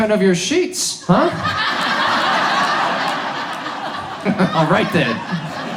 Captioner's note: audience laughs